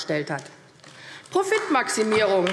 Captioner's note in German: Beifall AfD